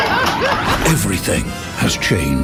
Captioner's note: maniacally laughing, pumping up the sex gun